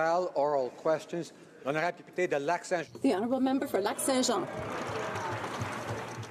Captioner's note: applause